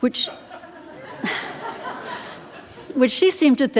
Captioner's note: audience laughing